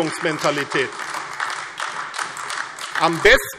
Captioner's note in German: Beifall AfD